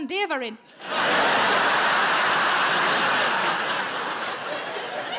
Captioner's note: audience laughing